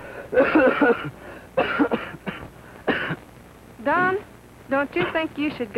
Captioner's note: Don coughing